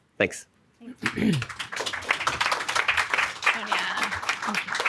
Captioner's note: audience clapping